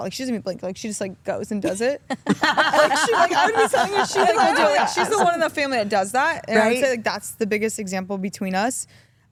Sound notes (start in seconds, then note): 2.0 Stephanie laughs